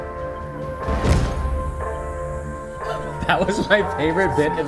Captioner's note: feet landing softly